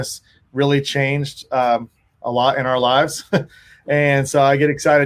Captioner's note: laughs